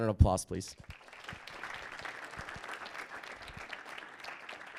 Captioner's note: audience applauding